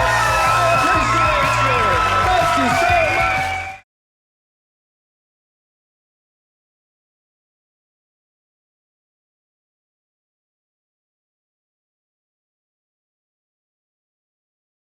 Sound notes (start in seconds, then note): 3.2 audience cheering